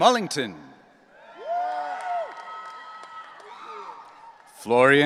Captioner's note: audience cheering